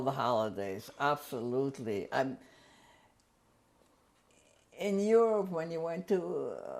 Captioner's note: pauses for 3 seconds